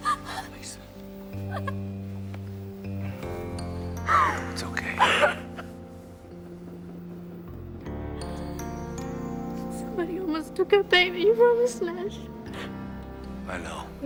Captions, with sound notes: Lisa... It's okay. (sobbing continues) Somebody almost took our baby from us, Nash. I know.